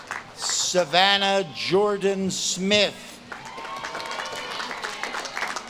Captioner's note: audience claps and cheers